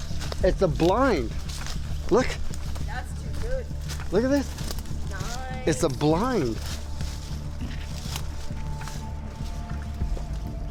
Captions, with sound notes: It's a blind. Look. - That's too good. - Look at this. It's a blind. [rustling leaves]